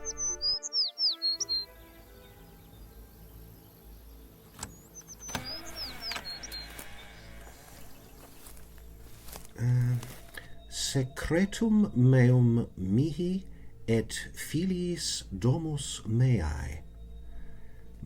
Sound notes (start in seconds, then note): 0.1 bird song; 5.0 unlocking and door creak